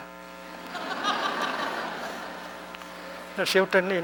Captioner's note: laughter